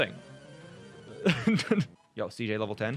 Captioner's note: chuckles